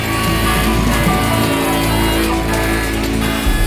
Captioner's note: saw whining